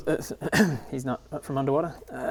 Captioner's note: clears throat